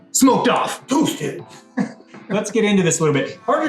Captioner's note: laughs